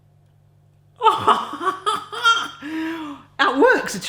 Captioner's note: laughs